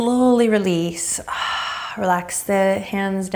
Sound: exhaling deeply

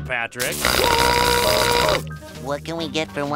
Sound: buzzing, screaming

